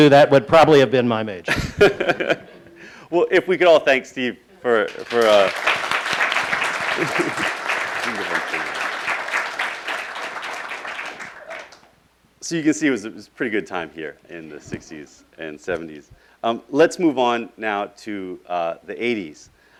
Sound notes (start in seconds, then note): 4.8 applauding